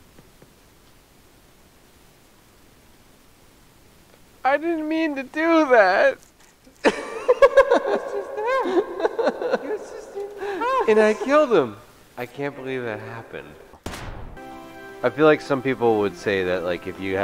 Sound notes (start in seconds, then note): 6.8 laughter